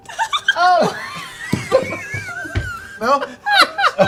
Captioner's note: laughter